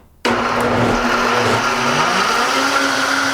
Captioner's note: whirring